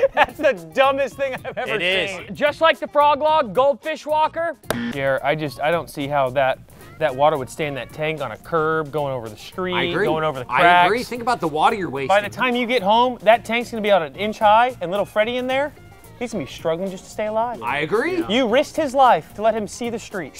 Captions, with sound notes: That's the dumbest thing I've ever seen! It is. Just like the frog log, goldfish walker-- [BUZZER] I don't see how that water would stay in that tank on a curb, going over the street-- I agree. --going over the cracks. I agree. Think about the water you're wasting. By the time you get home, that tank's going to be at an inch high, and little Freddie in there, he's going to be struggling just to stay alive. I agree. You risked his life to let him see the street.